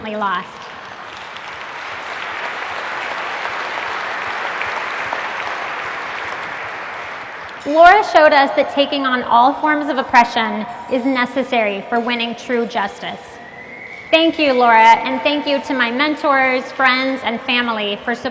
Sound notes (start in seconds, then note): 0.2 applause